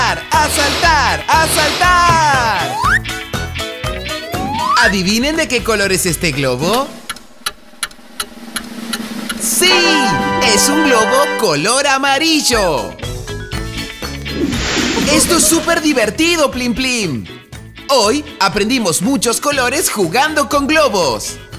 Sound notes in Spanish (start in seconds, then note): 8.1 Sonido de reloj